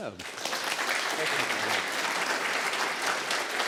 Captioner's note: applause